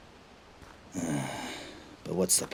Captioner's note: sigh